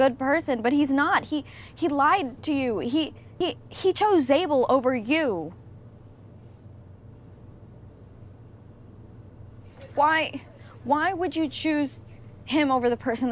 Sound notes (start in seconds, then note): none